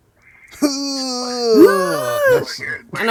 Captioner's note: grunting